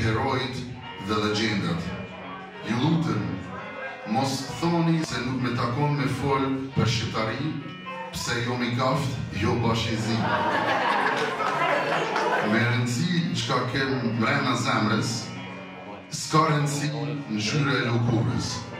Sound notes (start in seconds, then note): 9.9 the students laugh